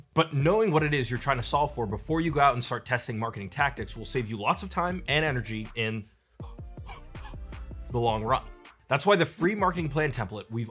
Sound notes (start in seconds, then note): 6.4 puffing